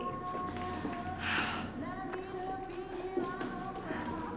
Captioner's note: quietly